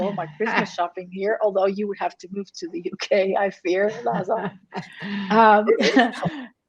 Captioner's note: chuckles